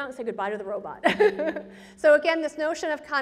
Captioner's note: presenter laughs